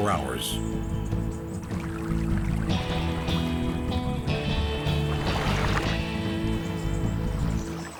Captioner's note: birds chirping